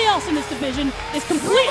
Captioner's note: bell ringing